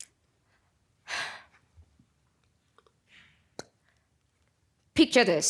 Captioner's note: exhaling